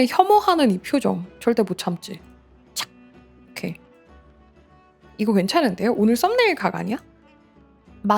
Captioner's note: snap